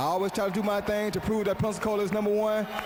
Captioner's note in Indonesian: Tepuk tangan